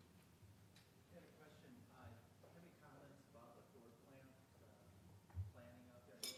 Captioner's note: crowd member speaking quietly